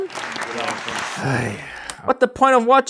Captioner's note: groans